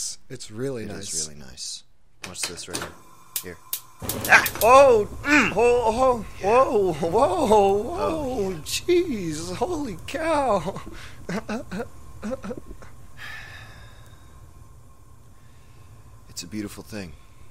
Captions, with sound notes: -It's really nice. -It is really nice. Watch this right here. Here. -Ah! -Oh! -Mm! Yeah... -Ho ho, whoa whoa-ho -Oh, yeah... -Whoa... Jeez, holy cow! *nervous laughter* *sigh* It's a beautiful thing.